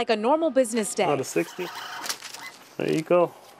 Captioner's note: phone ringing